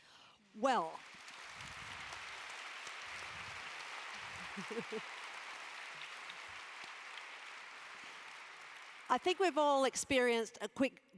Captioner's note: applause